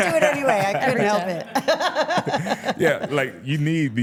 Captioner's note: laughs